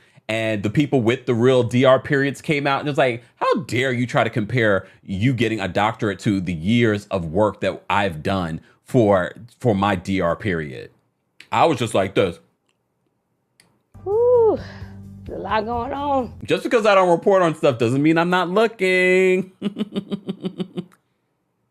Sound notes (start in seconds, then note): 13.3 munching; 19.4 giggles